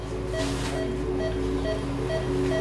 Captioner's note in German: Piepen